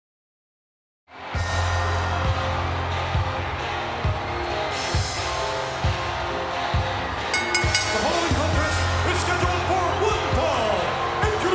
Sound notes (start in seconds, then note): 1.2 upbeat music; 7.2 bell rings